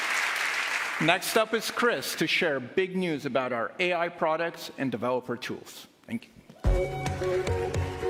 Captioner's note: cheers and applause